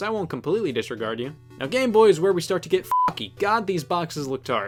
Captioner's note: beep